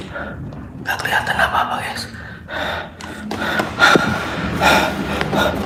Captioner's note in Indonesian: tertawa